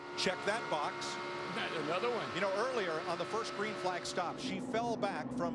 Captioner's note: cheers & applause